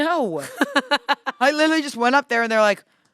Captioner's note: laughs